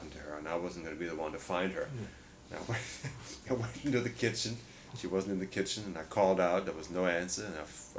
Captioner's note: laughs